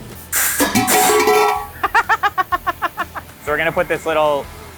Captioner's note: pan clangs; laughs